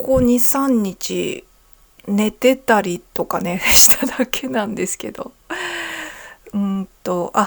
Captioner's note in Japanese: 息をのむ音